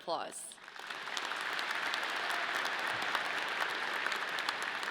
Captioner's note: audience clapping